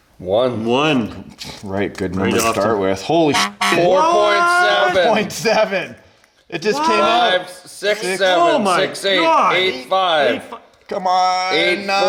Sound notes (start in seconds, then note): 3.3 beep